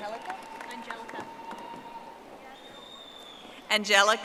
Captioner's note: audience applauding